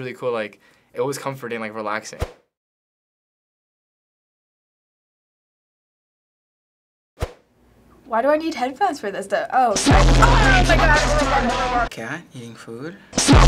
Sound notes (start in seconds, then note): 2.2 silence; 13.1 blaring music